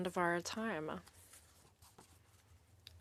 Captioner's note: speaking French